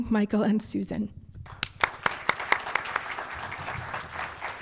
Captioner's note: applause